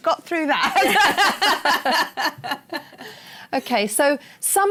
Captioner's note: laughter